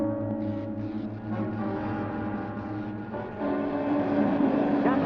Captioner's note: static crackling